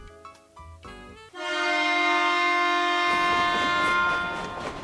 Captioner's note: Sifflet de train